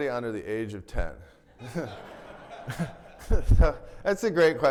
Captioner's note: everybody laughing